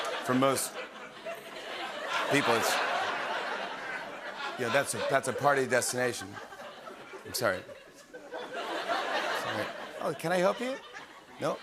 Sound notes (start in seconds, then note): 2.9 laughter